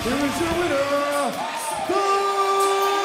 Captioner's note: crowd cheering